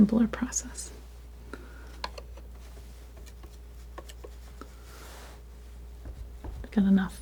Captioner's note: scraping